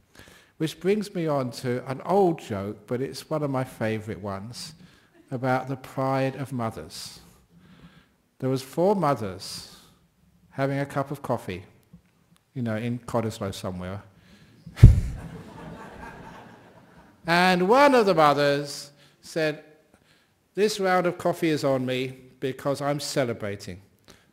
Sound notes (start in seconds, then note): 14.8 laughter